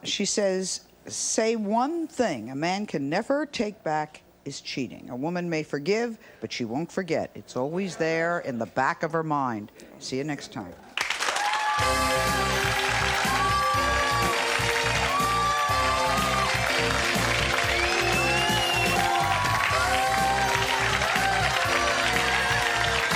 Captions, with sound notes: She says one thing a man can never take back is cheating. A woman may forgive, but she won't forget. It's always there in the back of her mind. See you next time. (applause) (upbeat theme tune)